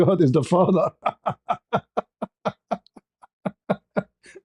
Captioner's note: ketawa